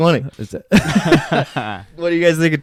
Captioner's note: laughing